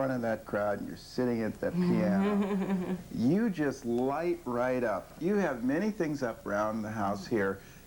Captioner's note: laughing